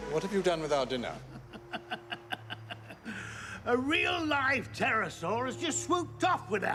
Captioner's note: laughs